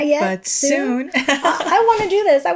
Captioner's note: chuckling